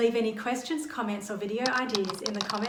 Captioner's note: keyboard keys clack